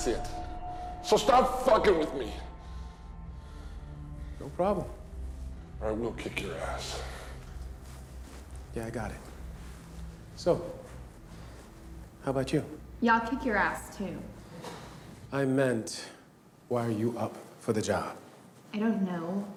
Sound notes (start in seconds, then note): none